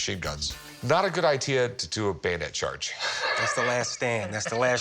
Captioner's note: laughs